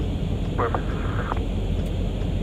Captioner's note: radio chatter